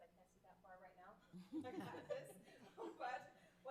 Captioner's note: everyone laughing